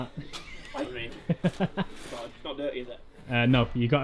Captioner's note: laughing